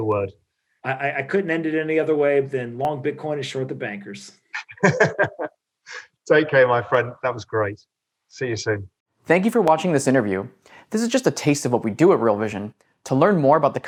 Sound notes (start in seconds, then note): 4.5 laughing